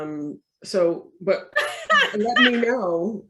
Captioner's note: laughs